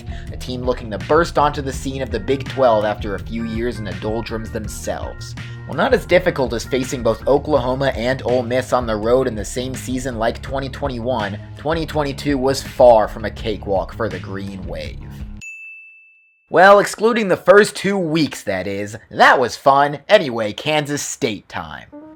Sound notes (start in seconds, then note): 15.4 ding!